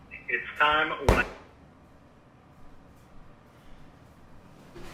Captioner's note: laptop lid slams